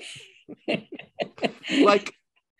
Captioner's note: laughing